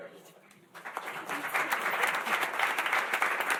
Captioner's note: applause